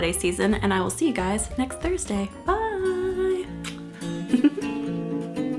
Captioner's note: laughs